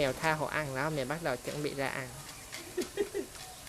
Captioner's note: laugh